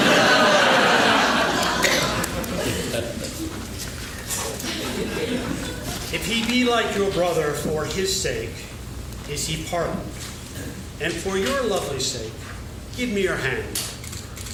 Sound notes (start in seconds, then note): 0.7 laughing